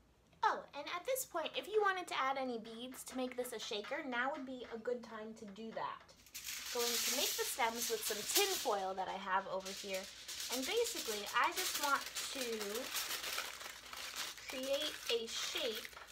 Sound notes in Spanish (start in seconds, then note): 10.6 papel arrugándose